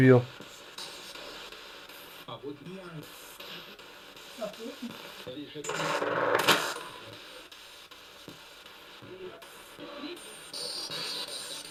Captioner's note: sound of the Spirit Box in the background